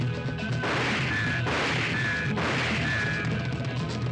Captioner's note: gun firing